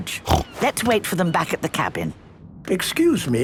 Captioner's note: George snorts; snorts